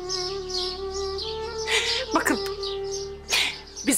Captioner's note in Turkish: Ağlama sesi